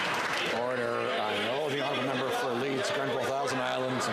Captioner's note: some Applause